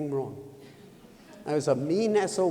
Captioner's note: laughter